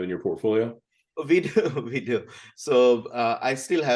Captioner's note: chuckles